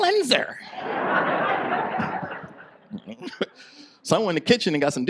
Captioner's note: audience laughs